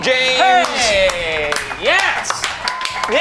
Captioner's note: clapping